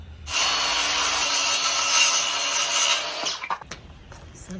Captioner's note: circular saw is noisy; wood falls to ground